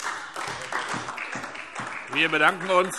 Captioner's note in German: Beifall SPD